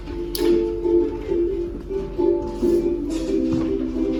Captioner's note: rustling